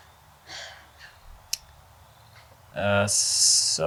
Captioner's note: Joy sighs